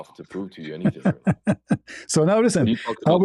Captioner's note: ketawa